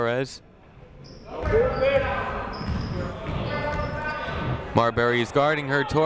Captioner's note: people shouting in the crowd